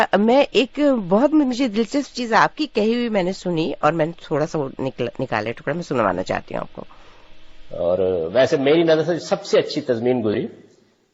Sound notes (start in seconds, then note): 7.4 recorded voice